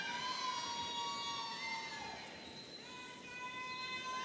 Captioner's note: audience cheering